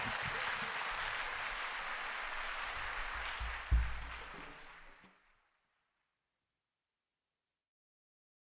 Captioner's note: applause